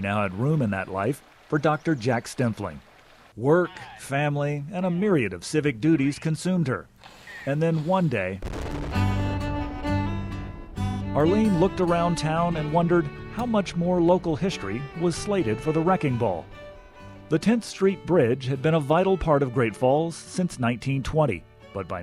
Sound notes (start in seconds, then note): 5.4 building thundering